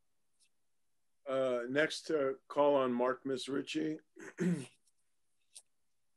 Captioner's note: cough